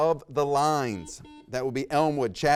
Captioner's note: buzzer rings